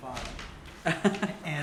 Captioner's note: laughter